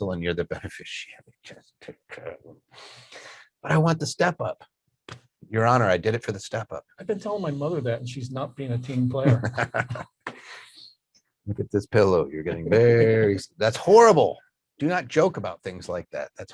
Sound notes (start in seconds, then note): 9.2 laughs